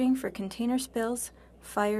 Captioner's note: speaking French